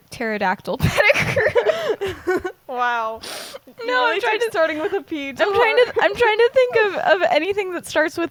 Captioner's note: laughter